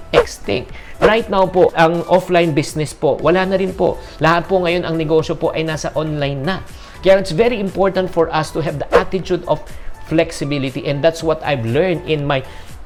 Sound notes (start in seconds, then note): none